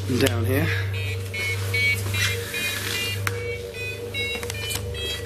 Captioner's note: high pitched beeping